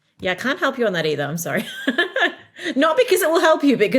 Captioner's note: laughs